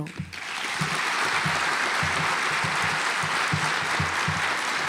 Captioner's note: audience applauds